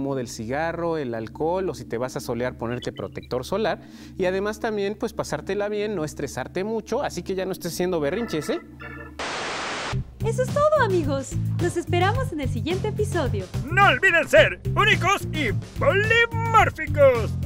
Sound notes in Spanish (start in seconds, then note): 8.2 estática; 17.2 ríe